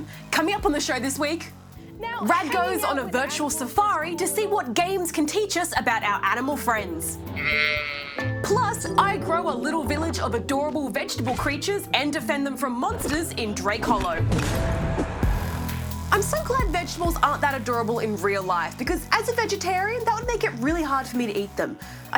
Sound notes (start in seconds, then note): 7.3 goat bleats